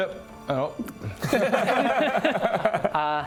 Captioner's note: heartless bastards laughter